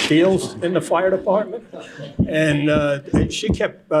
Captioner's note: laughter